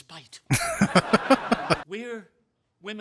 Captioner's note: laughing